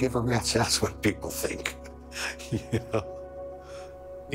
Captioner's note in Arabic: يضحك